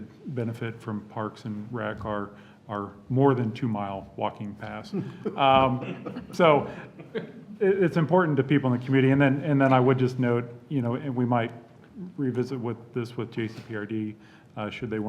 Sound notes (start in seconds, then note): 4.9 laughter